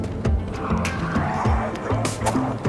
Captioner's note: oddly quiet mutated monster snarls; light swooshing sounds; oddly quiet mutated monster snarls